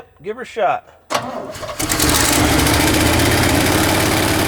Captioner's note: engine turns over